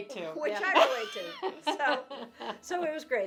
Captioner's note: laughing